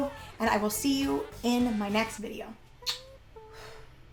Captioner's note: kisses